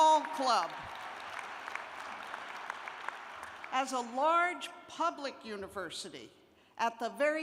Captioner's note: cheers and applause; applause